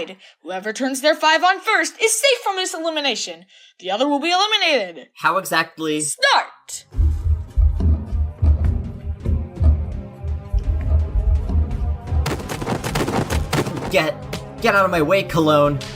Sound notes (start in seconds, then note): 12.2 shoving noises